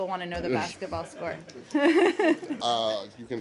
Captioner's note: laughter